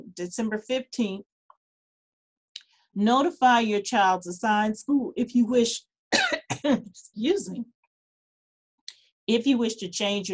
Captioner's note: coughs